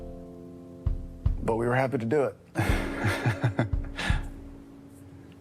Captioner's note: laughs